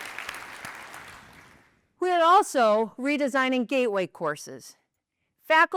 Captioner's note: applause